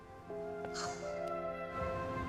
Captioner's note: sighs